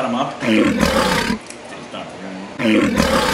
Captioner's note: tiger roars